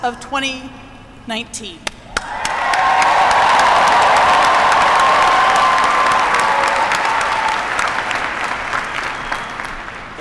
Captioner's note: applause